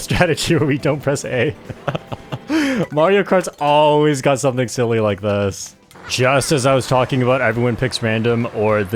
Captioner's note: laughs